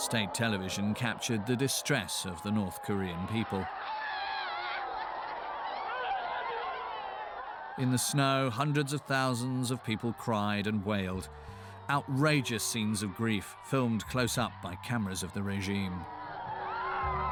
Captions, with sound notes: State television captured the distress of the North Korean people. (crowd screaming) In the snow, hundreds of thousands of people cried and wailed. Outrageous scenes of grief, filmed close up by cameras of the regime.